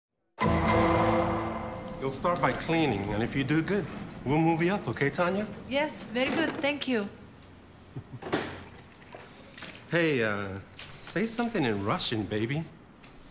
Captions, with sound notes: -You'll start by cleaning. And if you do good, we'll move you up. Okay? Tanya? -[ Russian accent ] Yes. Very good. Thank you. -Hey, uh, say something in Russian, baby.